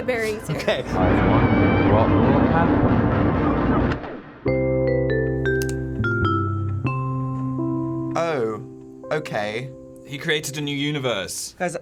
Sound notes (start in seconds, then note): 4.8 cheerful music; 5.5 snaps fingers